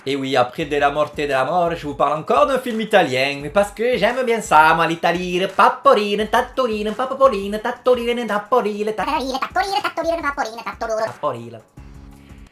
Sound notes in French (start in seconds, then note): 3.7 Accent italien